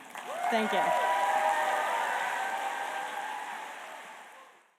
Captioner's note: applause